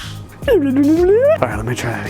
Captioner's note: retro robot sounds